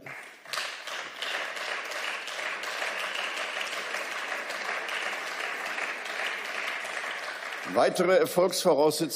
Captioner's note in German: Beifall